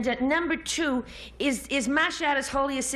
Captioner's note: none